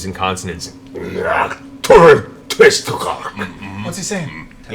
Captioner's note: speaks Undercommon